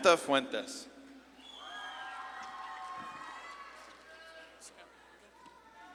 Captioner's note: audience claps and cheers